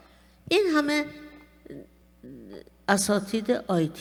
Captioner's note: speaking persian